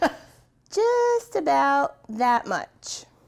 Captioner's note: laughs